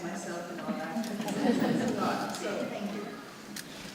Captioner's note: audience laughing